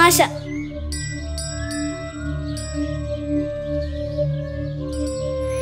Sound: bell ring

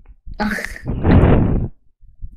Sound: laughing

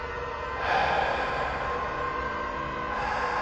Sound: louder heavy breathing

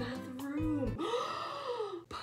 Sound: gasp

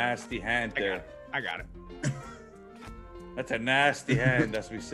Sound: laugh

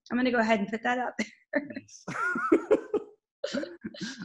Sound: laughing

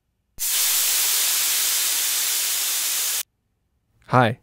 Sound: sizzling bacon sound

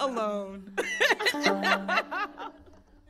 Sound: both laughing

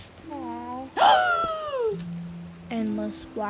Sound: loud gasping

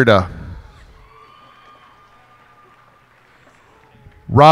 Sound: cheers and applause

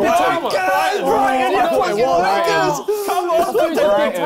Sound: all mumbling

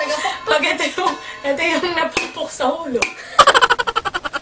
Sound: laughs

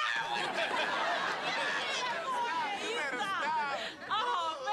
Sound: laughing

